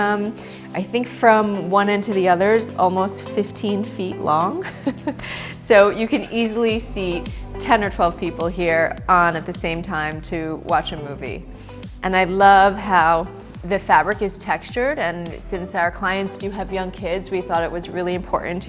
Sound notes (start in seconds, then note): 4.6 chuckles